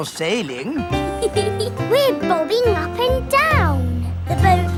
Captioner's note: giggles